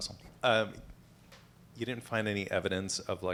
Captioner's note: voiceover